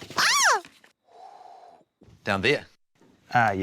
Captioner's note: exhales